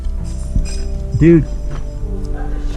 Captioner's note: metal clinks